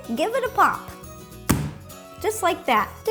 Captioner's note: thud